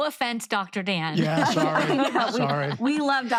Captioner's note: laughing